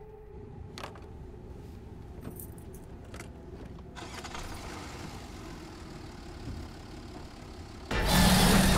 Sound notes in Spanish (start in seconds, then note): 4.0 Motor acelerando; 7.9 Rugido